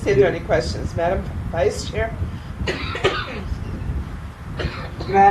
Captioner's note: coughing